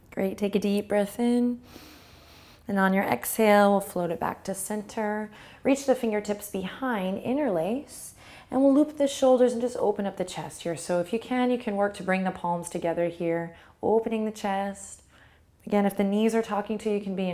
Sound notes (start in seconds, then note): 1.6 inhales